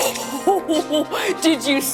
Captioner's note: laughs